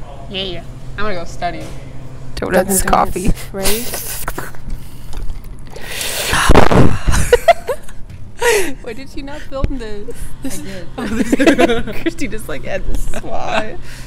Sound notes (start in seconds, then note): 5.6 slurping noise; 5.7 gross mouth breathing into mic